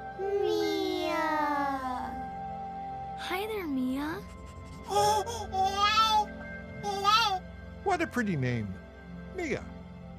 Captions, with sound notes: - Mia. - Mia. Hi there, Mia. [giggling] What a pretty name, Mia.